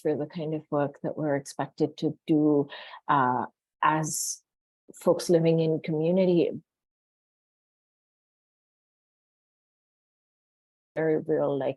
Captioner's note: audio cuts briefly